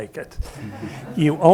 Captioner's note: audience laughing